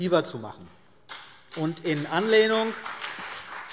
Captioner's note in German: Beifall BÜNDNIS 90/DIE GRÜNEN und vereinzelt CDU